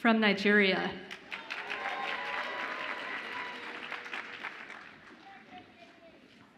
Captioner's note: audience applauds and cheers